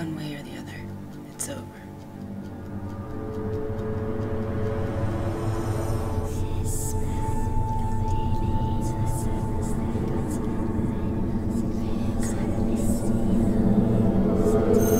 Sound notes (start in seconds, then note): 6.9 dramatic music; 6.9 eerie whispering